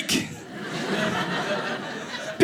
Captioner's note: audience laughing